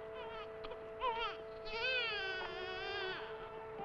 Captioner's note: baby crying